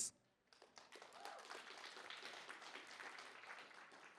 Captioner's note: applause